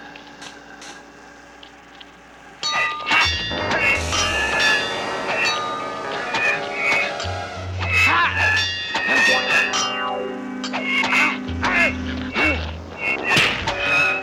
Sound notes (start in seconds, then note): 3.1 clanging; 11.4 grunting